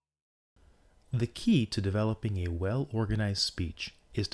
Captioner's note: voice-over